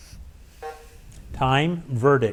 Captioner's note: bell dings